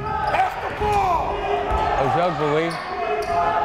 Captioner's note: yelling